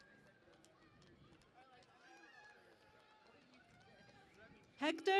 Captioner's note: cheering and Applause